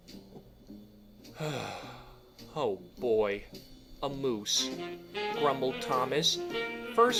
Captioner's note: sigh